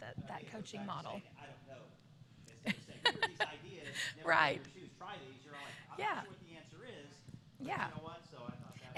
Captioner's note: laughter